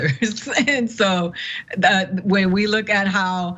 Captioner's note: laugh